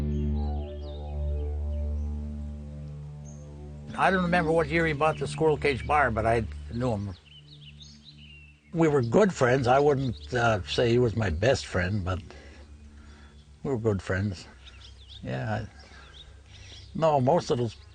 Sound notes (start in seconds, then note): 1.5 birds chirping